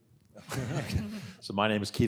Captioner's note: panel laughing